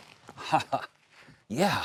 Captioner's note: laughing